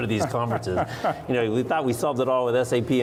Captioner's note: laughs